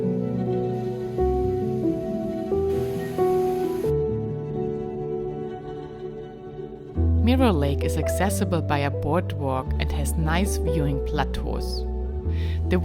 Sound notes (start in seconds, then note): 3.4 water flows